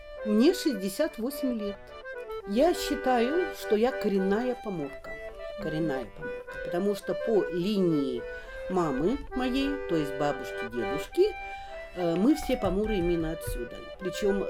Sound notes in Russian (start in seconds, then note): none